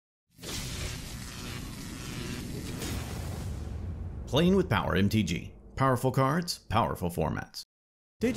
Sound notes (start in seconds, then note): 0.4 electricity Buzzing